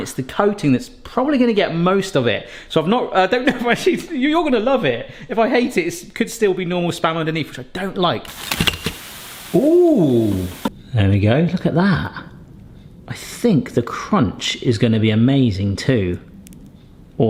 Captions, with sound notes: it's the coating that's probably gonna get most of it. So I've not, I don't know if I should. You're gonna love it! If I hate it, it could still be normal spam underneath, which I don't like. (spam thudding) Ooh! There we go, look at that. I think the crunch is gonna be amazing too.